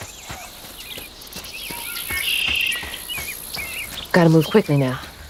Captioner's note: birds chirping